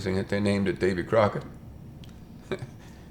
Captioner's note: chuckles